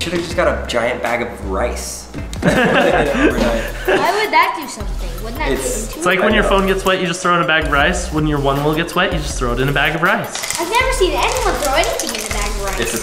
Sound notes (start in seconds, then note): 2.4 laughing